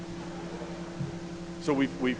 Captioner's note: audience laughing